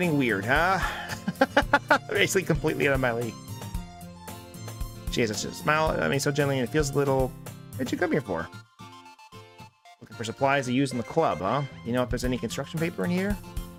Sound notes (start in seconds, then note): 2.3 laughs